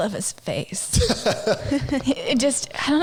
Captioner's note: laughing